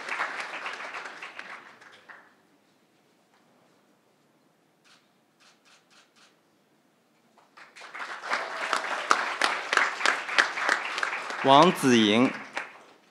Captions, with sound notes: (crowd applauding) Wang Ziying